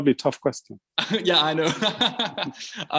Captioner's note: laughs